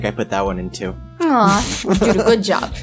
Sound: laughs

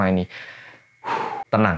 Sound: breathes heavily like again

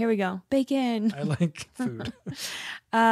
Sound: laughs

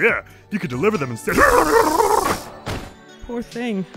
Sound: sputtering, then collapses as an electric sound plays

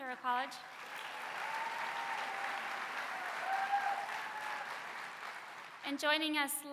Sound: applause

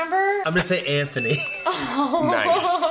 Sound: giggling

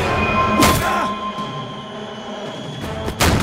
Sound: loud musical sting; machete slices

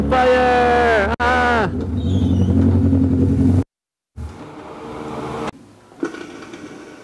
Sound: motorcycle running

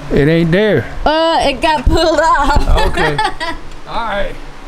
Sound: laughter

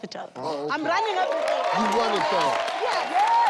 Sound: cheering

